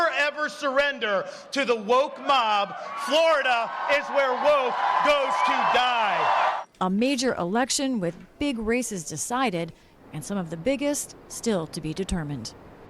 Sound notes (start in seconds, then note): 6.3 cheering and applause